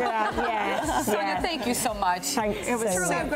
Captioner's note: laughs